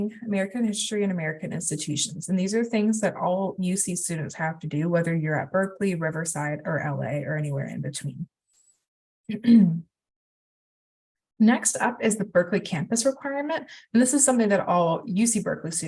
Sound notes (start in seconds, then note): 9.3 clears throat